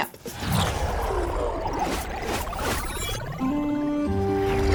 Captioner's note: electronic beeping